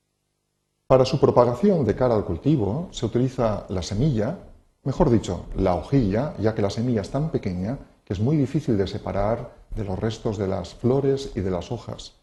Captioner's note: in Spanish